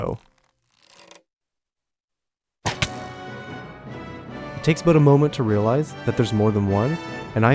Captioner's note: crossbow bolt let loose and impact sound